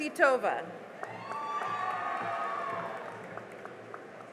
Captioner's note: cheering and applause